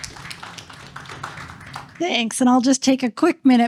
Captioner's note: applause